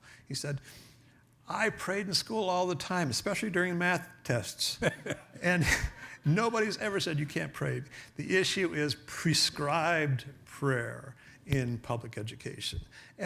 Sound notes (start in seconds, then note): 4.7 laughs